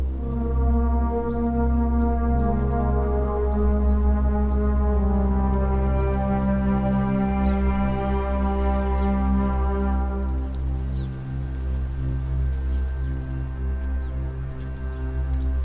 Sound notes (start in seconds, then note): 5.4 birds chirp; 5.4 dark music continues